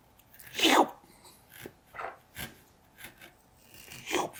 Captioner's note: slurping sounds